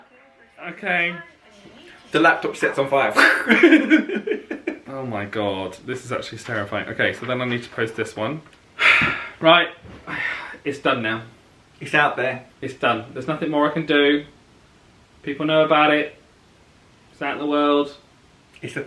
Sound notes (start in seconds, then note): 3.1 laughs; 10.0 sighs